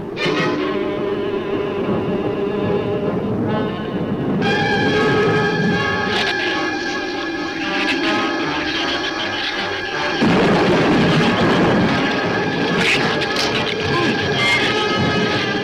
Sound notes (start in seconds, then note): 0.1 ominous music continues; 5.9 shrew chatter; 9.9 thunder claps; 12.7 shrew chatter